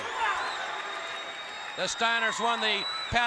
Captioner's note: crowd chatter